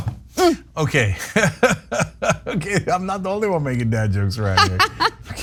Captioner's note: laugh